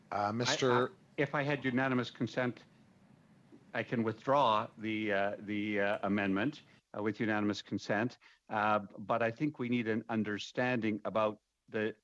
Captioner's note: speaking French